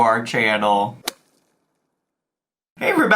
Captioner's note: logo thuds